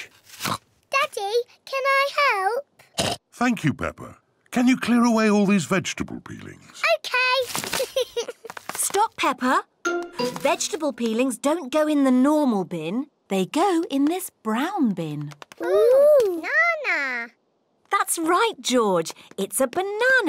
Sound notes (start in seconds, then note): 3.0 oinks; 7.8 giggles